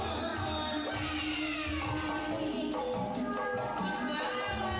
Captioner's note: people exclaiming; singing continues; person singing in a foreign language